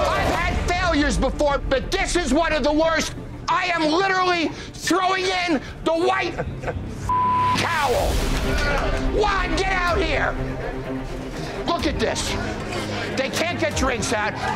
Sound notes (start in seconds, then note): 0.0 patrons protesting; 7.0 beeping